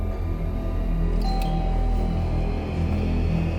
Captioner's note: door bell